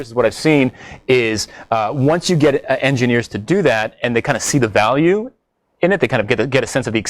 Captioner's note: none